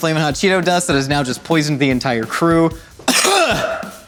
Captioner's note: coughs